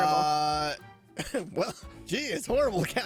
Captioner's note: laughs